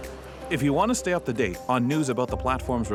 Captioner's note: voiceover